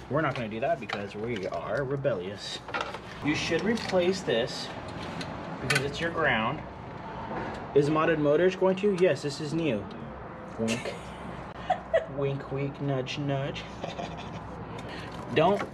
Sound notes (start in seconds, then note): 11.5 laughs; 14.8 laughs